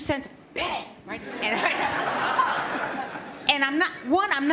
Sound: laughter

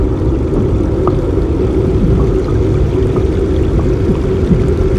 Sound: ominous music; water running

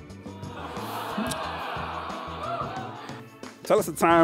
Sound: crowd groans

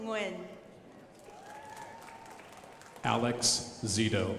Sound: crowd applauding

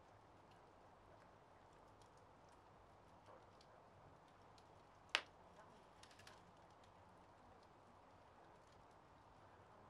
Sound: crackling fire

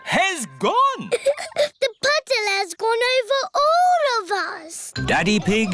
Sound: laughs

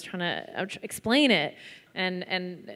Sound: none

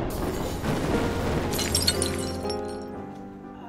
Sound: explosion; glass breaks; dramatic music

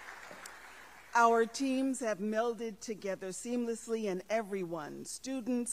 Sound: applause

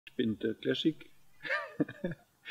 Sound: lachen

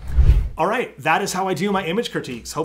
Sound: air whooshing

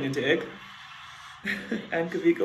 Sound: chuckles

